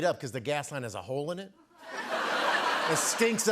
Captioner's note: laughter